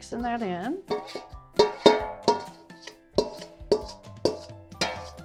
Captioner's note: metal clanking